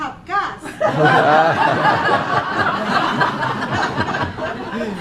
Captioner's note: laughing